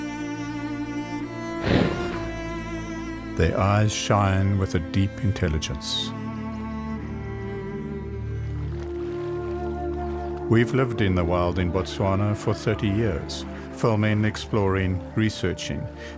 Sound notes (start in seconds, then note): 1.6 elephant snorts; 3.1 animals calling